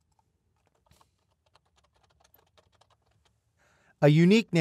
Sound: keys whirring

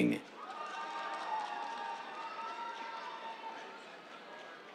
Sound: cheers, applause

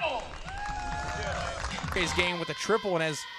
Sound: cheering

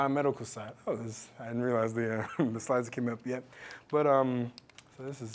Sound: laugh

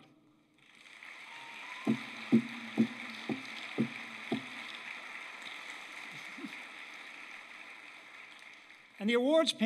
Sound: applause

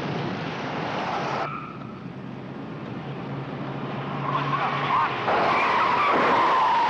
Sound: brakes squealing; tires screeching

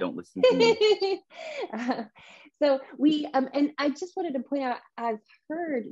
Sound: laughs

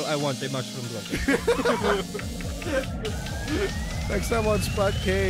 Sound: laughs

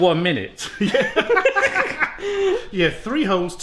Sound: both laughs

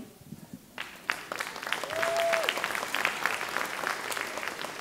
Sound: audience clapping

